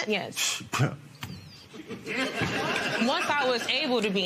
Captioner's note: scoffs